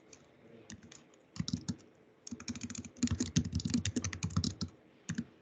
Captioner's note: fingers typing